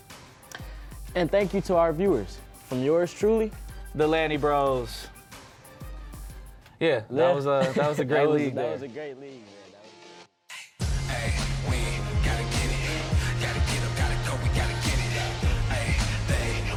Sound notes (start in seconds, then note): 7.5 laughing